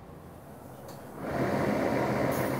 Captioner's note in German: Dröhnen